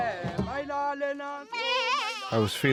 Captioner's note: goat bleats